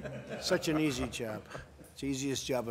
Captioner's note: laughter